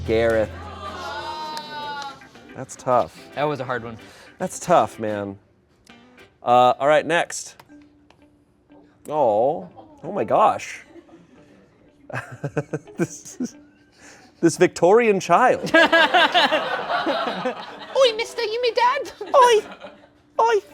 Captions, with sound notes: Gareth. (audience exclaims) - That's tough. - That was a hard one. - That's tough, man. All right next. Aw. Oh my gosh. (laughs) This Victorian child. (laughter) - (in British accent) "Oy, mister, you me dad?" - "Oy, oy."